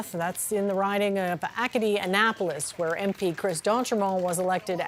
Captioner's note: applause